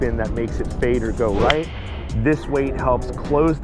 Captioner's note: golf club strikes